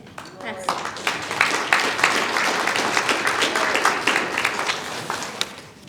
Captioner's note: applause